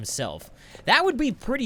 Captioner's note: inhales